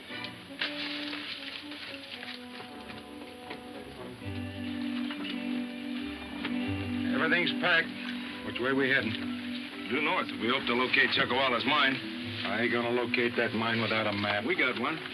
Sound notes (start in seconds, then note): 2.9 pleasant music; 9.8 wagon rattling